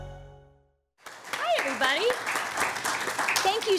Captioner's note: audience applauding